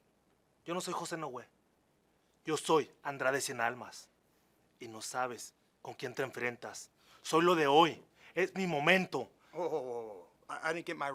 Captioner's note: speaking spanish